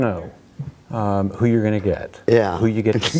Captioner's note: laughing